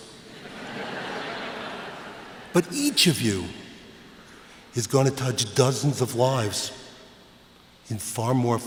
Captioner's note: laughter